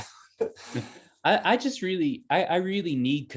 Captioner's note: chuckles